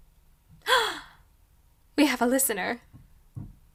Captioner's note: gasp